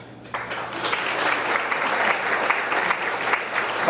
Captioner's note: audience clapping